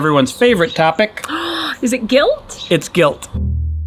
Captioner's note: gasps